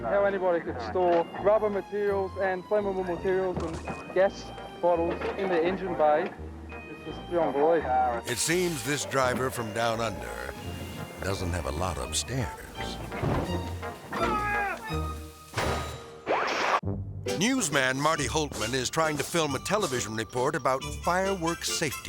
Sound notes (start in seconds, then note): 13.7 melodic music; 14.2 man screaming; 15.8 hood slamming; 16.6 screen static